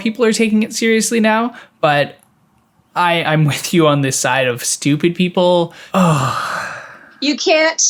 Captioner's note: sigh